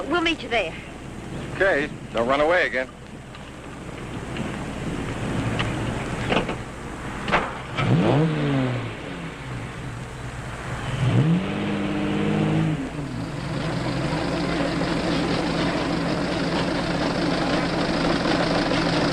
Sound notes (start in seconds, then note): 7.8 engine revving; 13.5 engines rumbling